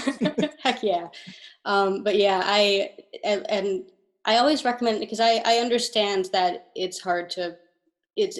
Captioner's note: laughing